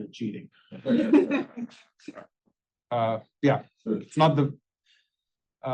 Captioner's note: laugh